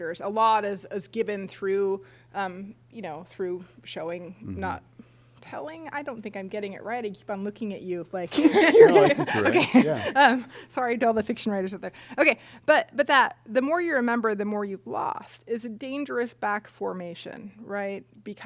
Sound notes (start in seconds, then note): 8.3 laughter